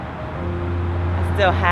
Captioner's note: upbeat music; shouting